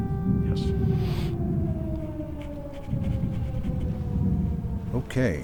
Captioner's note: sirens blaring